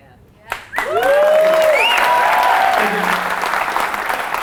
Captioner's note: applause